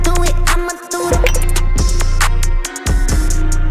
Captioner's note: click